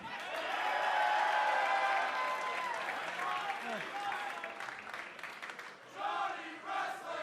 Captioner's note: cheers and applause; fans chanting